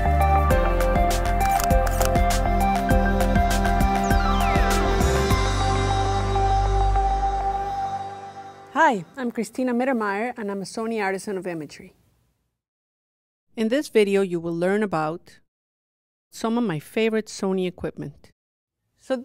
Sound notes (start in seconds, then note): 1.4 camera flashing